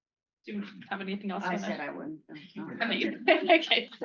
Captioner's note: laughter